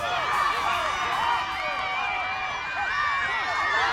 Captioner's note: people cheer